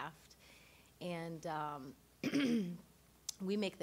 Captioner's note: clearing throat